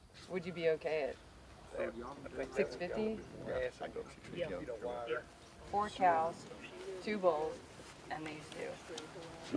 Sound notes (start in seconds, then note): 4.7 people chattering